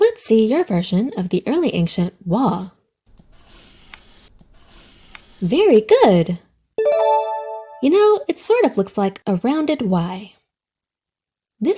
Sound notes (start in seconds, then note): 3.3 pencil scratches; 6.8 check mark dings